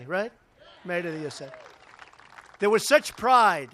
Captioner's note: applause